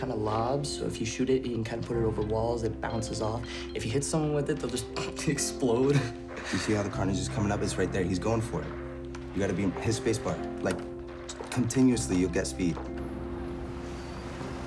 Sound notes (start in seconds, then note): 5.8 laughing